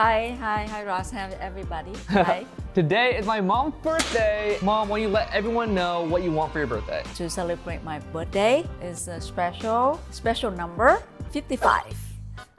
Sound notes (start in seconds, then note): 1.8 laughs